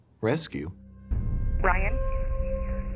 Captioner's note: on phone